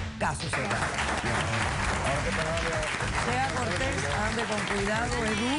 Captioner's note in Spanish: Aplausos